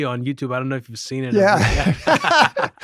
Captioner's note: laughter 00:07:33